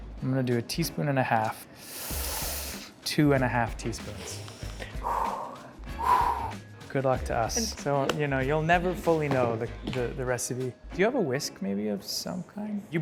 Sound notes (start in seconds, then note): 4.3 sighs